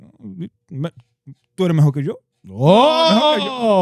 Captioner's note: speaking In Foreign Language